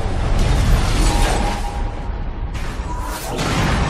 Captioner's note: exploding; metal crashing